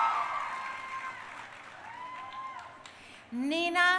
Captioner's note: crowd cheering